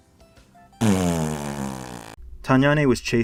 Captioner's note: raspberry